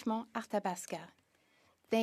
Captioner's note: speaking in French